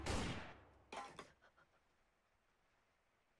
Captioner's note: gun bangs